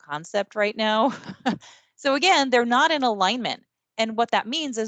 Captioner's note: chuckles